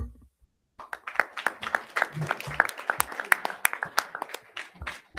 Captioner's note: crowd applauding